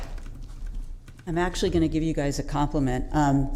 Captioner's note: applause